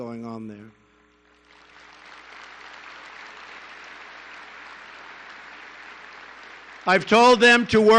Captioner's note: applause